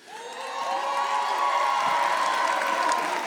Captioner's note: audience cheers